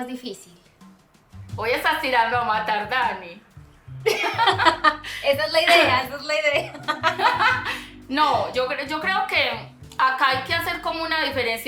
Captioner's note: laughs